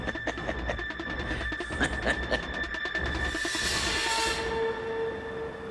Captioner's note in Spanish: Risas